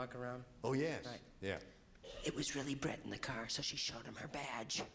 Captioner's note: whispering